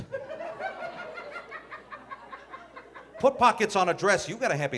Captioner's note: audience laughing